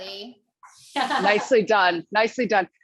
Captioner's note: laughter